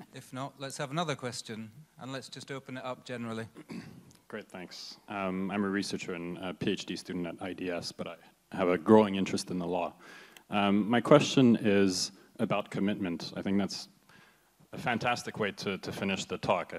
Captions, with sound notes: - If not, let's have another question and let's just open it up generally. [clears throat] - Great. Thanks, I'm a researcher and a PhD student at IDS but I have a growing interest in the law. My question is about commitment. I think that's a fantastic way to finish the talk.